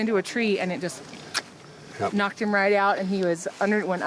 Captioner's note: tongue clicks